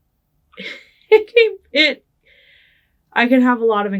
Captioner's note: laughing